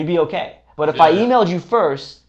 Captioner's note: peep